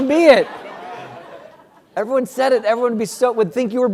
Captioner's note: laugh